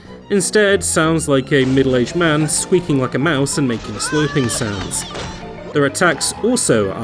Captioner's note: vase smash, squeaks and squishes